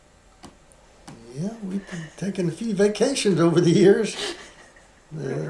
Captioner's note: laughs